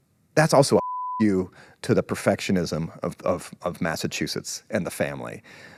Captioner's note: beep